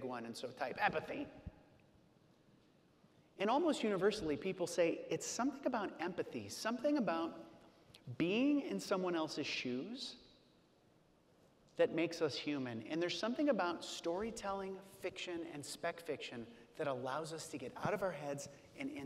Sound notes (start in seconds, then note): none